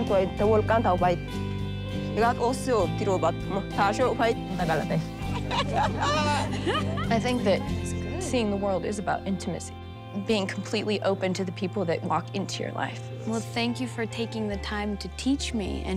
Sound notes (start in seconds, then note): 5.2 laughter